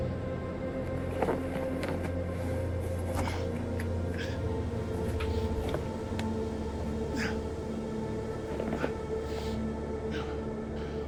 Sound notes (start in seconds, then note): 1.0 fabric rustling; 7.0 person grunts